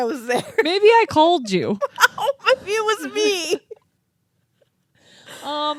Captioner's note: laughing